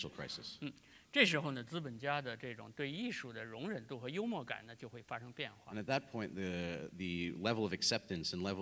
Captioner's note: speaking in Chinese